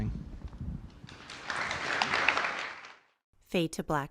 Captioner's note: audience applause